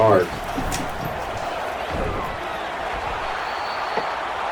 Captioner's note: crowd Noises